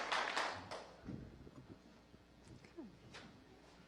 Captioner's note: applause